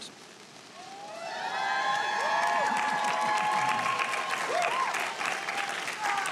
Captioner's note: audience cheering and applauding